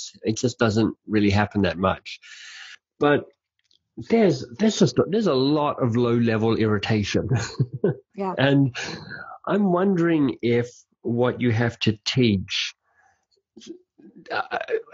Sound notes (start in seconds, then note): 7.2 laughing